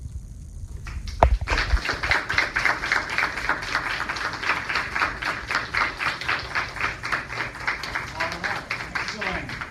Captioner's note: applause